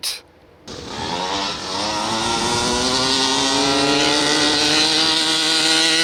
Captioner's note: truck engine revving